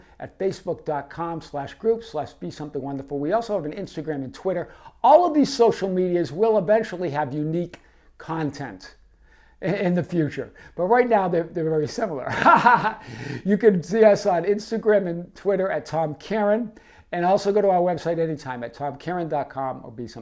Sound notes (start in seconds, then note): 12.2 laughing